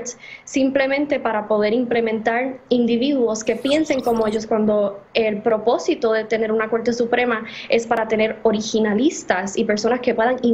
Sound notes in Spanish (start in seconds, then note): 6.2 habla en ingés